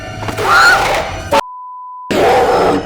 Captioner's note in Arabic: صراخ